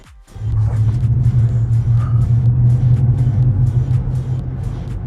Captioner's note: car engine revving